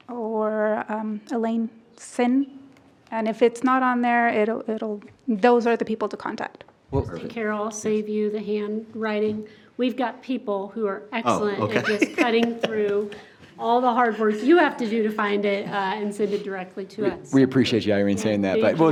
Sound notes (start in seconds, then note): 11.2 laughs